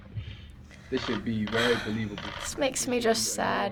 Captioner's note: sighing